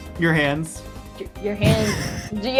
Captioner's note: laughs